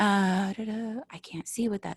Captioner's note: humming